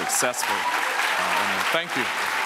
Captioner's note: audience applauds